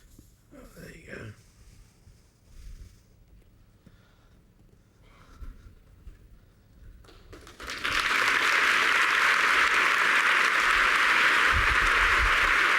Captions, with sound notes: Well, there you go. [APPLAUSE]